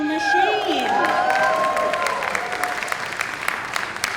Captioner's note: crowd cheering